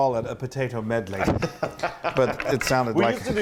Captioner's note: laugh